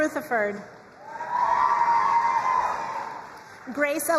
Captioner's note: crowd cheering and applauding